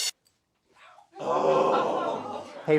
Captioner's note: sighs